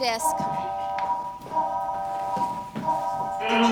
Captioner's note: alarm blaring; alarm